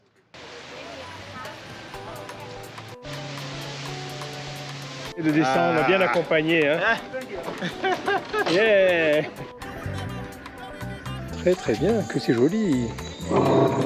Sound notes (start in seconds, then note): 7.5 laughs